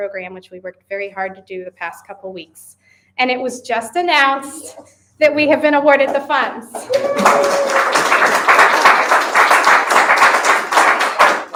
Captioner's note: audience applause